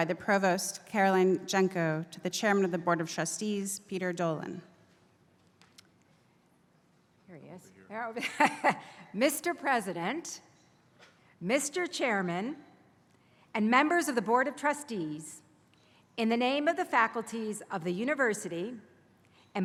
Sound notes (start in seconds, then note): 9.8 laugh